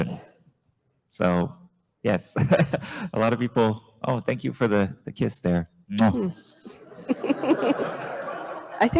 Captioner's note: smooch sound